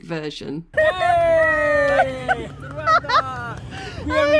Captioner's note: cheering